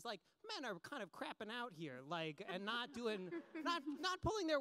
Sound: laughs

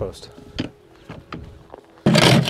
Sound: wheelbarrow clanking; wheelbarrow rattling

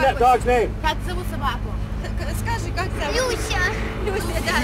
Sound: speaking in Russian

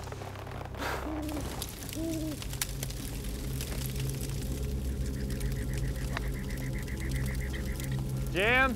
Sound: night sounds

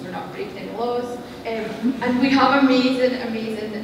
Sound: laughter

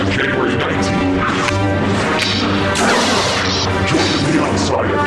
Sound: lightsaber sound effect

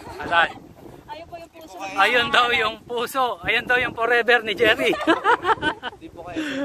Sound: laughs

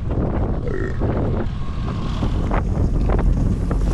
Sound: burps

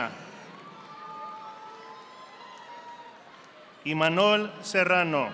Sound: audience applauding

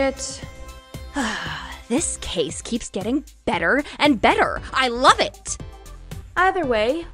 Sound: sigh

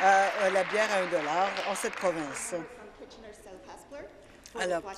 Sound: applause

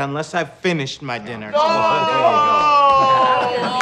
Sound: overlapping chatter

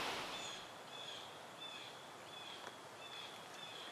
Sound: bird screeching

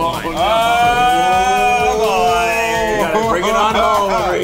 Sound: laughing; laughing

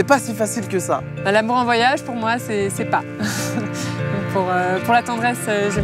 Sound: she laughs

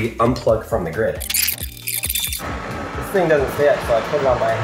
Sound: tape whirring

